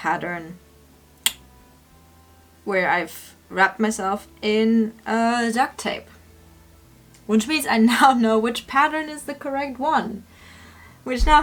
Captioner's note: clicks tongue